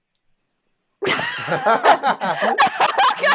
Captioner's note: laughing